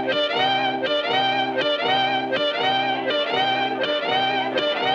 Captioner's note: chattering